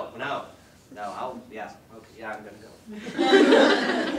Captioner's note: audience laughter